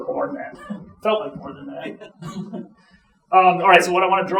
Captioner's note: chuckling